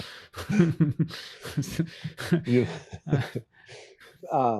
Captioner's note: interviewer laughs